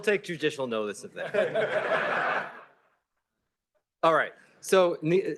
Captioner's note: laughter